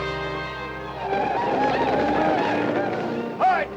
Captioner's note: Apaches howl